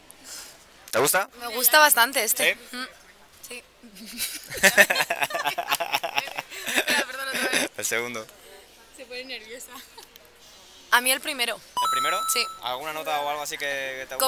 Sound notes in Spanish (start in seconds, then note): 4.0 risas